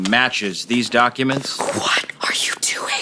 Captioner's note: whispering